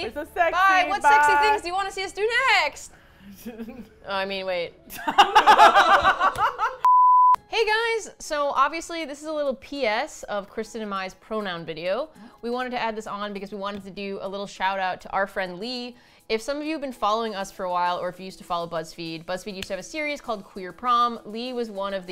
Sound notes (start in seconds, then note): 3.4 laughs; 5.0 all laugh